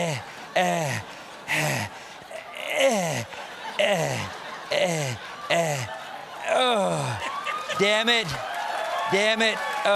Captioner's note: grunting